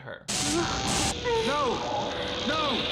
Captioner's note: electricity crackling